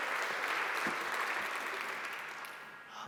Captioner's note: applause